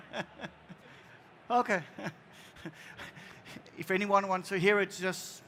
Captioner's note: l aughter